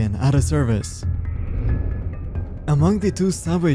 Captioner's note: air whoosh